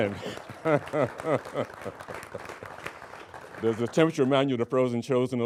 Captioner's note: laughing; applauding